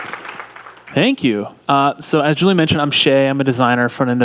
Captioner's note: cheering and applause